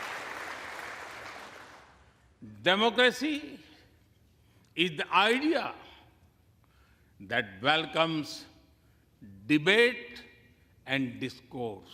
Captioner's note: applause